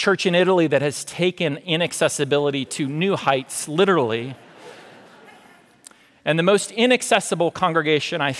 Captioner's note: audience laughter